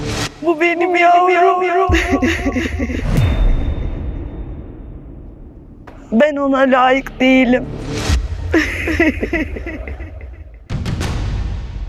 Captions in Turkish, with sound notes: Bu benim yavrum. [kahkaha] Ben ona layık değilim. [kahkaha]